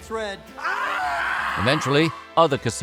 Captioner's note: screaming